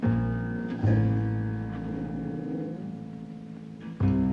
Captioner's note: jack growling